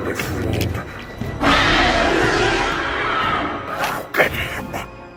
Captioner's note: screeching